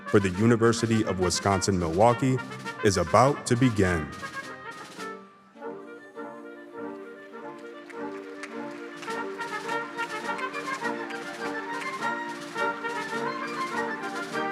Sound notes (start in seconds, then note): 6.8 attendees clapping